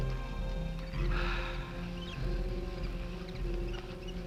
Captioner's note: Quent gasping